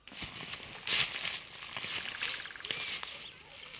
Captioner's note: shuffling